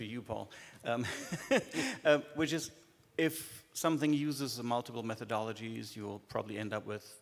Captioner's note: laughs